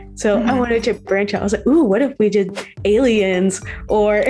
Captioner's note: laughs